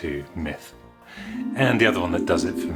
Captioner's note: fantasy Magic Warble Sound Effect